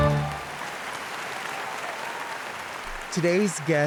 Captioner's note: audience clapping